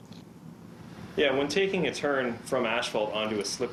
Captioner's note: voiceover